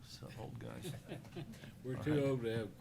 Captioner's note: laughter